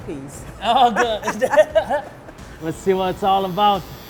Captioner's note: laughter